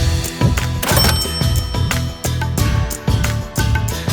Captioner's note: register dings